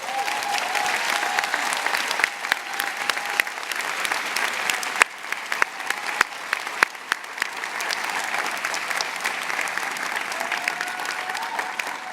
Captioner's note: applause and Cheers